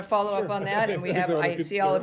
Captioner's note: laughter